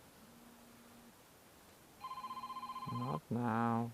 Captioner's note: phone ringing